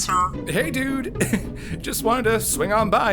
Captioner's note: lorne chuckles